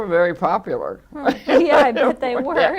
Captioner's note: laughs